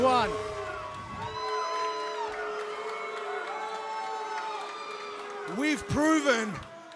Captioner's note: crowd cheering